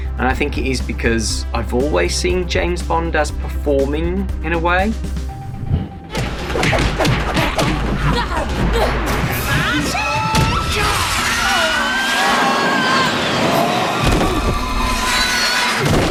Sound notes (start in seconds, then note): 6.6 punches and grunts; 14.2 thumps